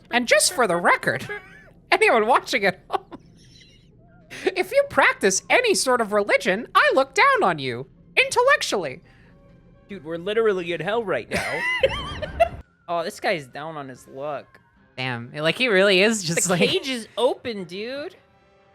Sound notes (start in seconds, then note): 3.1 laughing; 9.9 sullen voice; 11.4 laughing